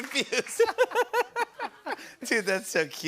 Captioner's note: laughter